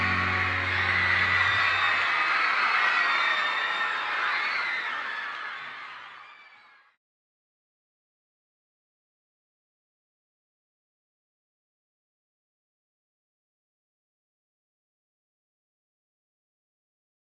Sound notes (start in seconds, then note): 0.0 crowd cheering; 6.4 cheering fades